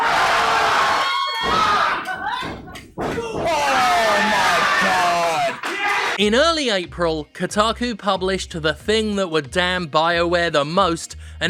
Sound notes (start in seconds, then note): 0.2 Jim yelling; 3.2 wrestler grunts